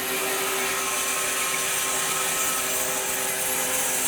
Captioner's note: saw whirs